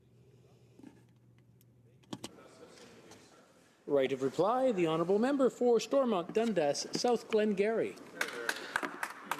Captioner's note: applause